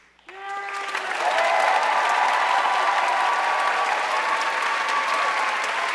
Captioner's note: audience cheering and applauding